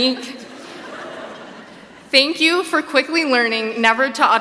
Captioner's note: laughs